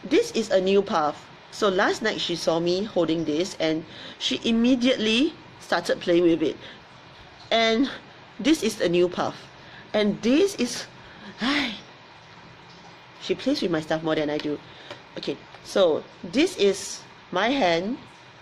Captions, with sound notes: This is a new puff, so last night she saw me holding this and she immediately started playing with it and this is a new puff and is (gasp) she plays with my stuff more than I do. Okay, so this is my hand